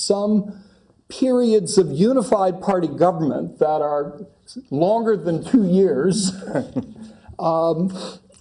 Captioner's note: laugh